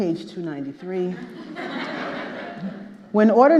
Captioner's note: audience laughing